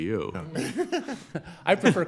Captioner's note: judges laughing